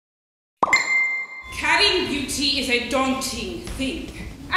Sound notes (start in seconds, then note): 0.6 cellphone bings